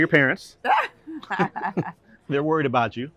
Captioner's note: laughter